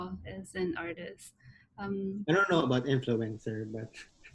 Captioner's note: laughs